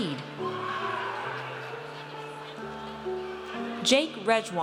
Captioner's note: audience cheers